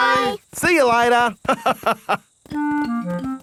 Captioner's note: laughs